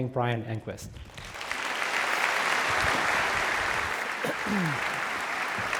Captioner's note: audience applauding